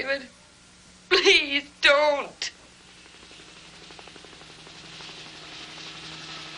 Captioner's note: helicopter approaches